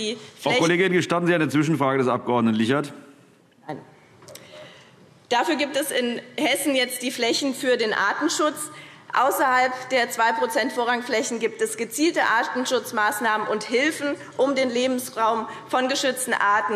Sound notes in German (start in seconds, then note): none